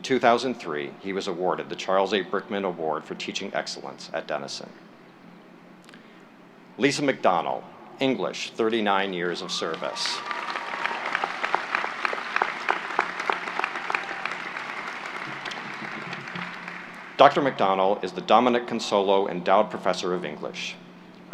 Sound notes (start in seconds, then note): 9.6 applause